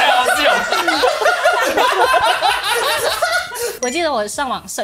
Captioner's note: Laughs